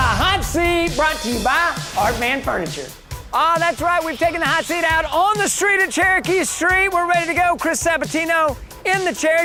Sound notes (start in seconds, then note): 0.0 cymbal crash; 0.6 loud slamming; 2.7 loud Swooping